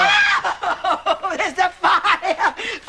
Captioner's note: screams